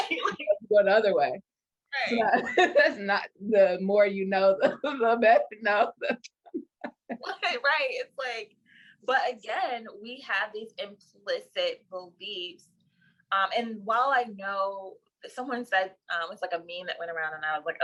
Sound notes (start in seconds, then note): 5.9 laughter